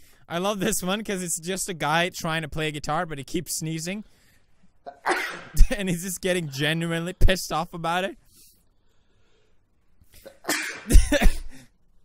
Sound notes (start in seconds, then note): 4.8 sneezing; 5.4 laughs; 10.2 sneezing